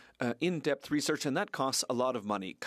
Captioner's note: speaking French